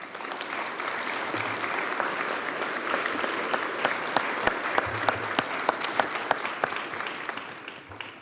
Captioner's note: applause